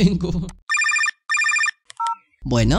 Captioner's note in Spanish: Teléfono